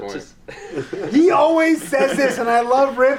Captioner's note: laughs